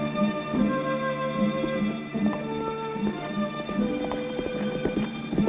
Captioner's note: hooves pounding